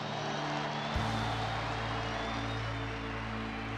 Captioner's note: crowd cheering and applauding